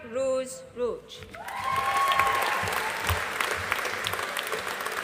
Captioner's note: audience applauding